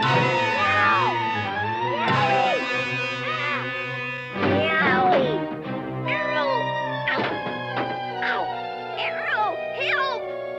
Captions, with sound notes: Whoa! (thumps) Wowee! Yowee! Arrow! Ow! Ow! Arrow, help!